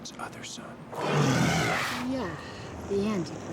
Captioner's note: roars